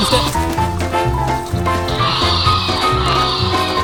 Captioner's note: roars